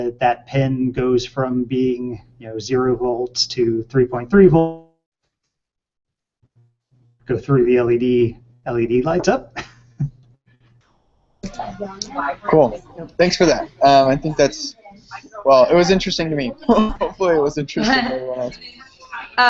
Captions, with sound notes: That pin goes from being, you know, zero volts to 3.3 volts. Goes through the LED, LED lights up. (chuckles) - Cool, thanks for that. I think that's, well, it was interesting to me. Hopefully it was interesting to everyone else.